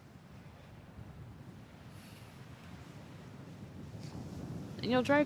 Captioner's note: waves continue crashing